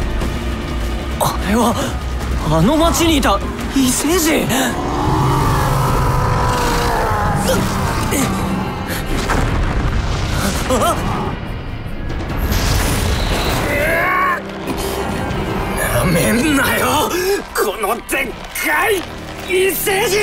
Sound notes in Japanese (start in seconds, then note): 4.5 ブラックキングの 雄たけび; 7.3 雄たけび